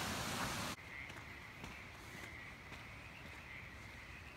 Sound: crickets chirp

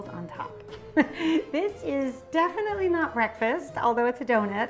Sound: chuckles

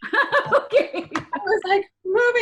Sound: laughs

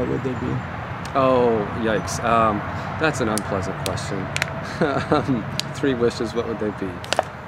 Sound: laughs

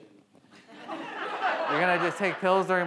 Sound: audience laughs

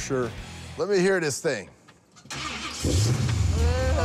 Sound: engine revs

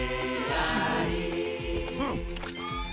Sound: whirring

